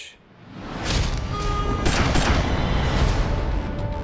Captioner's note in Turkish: kavga, korna ve silah sesleri; gerilim müziği çalıyor